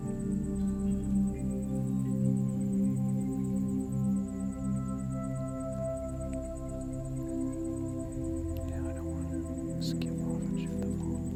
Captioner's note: whispering